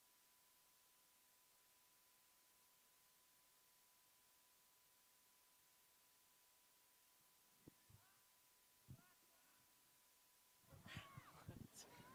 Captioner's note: cheers and applause